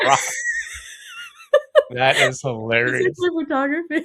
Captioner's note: laughs